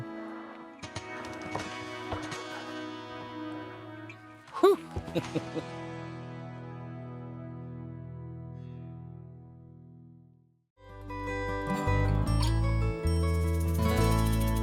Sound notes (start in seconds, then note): 0.1 peaceful music; 4.5 laughs; 10.8 peaceful music